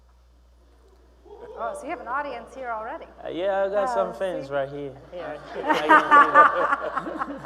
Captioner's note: laughing